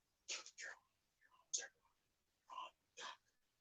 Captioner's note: whispering